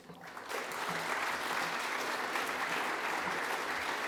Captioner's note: audience applauding